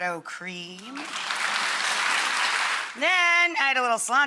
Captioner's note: audience applauds